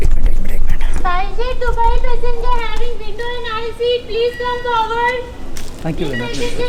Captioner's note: airport staff announcing